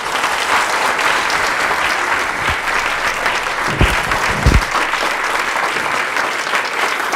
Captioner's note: applause